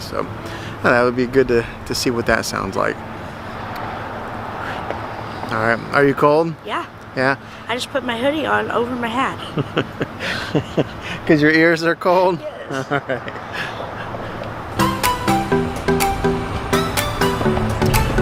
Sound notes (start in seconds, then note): 9.4 laughing; 14.8 upbeat bright music